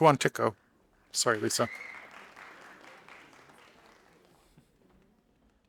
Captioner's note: audience applauding